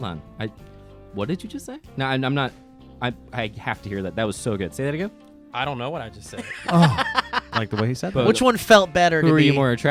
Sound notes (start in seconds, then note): 6.3 laughs